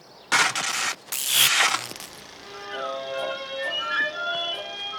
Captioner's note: electricity crackling; soft orchestral music